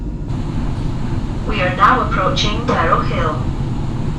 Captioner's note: announcement